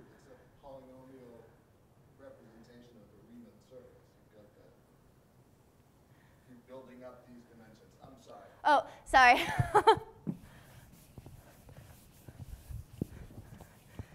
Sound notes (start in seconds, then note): 9.4 laughs